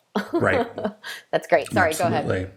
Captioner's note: laughing